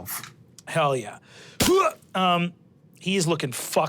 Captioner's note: imitates a punching noise